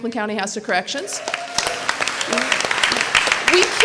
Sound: applause

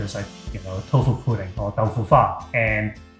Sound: in foreign language

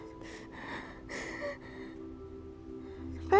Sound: breathing quickly

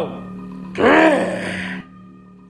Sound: roar

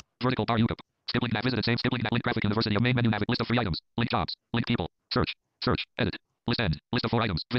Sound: screen reader reads fast

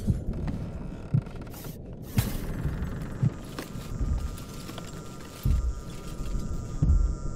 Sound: lights flickering

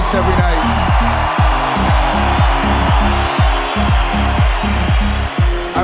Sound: applause

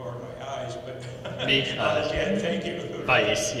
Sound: laughing

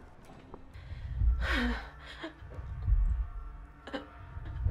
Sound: heavy breathing

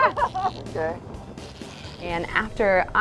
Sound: laughs

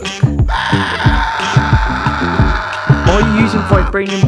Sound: screaming

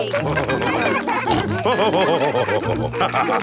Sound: all cheering; laughing

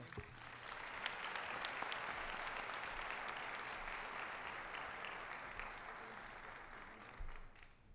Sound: applause

